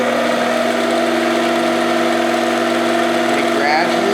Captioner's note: machine whirring